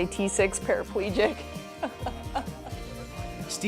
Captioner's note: laughter